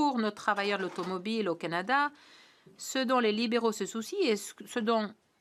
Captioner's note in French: voix de l'interprète